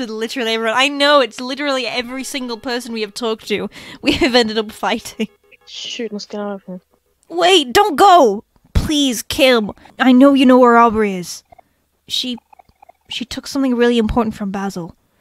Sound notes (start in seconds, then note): 3.9 laughs